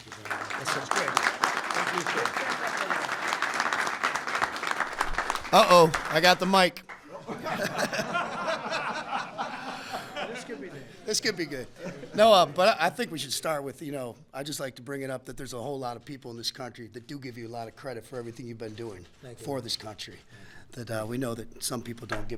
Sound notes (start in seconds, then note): 0.0 applause; 7.0 laughter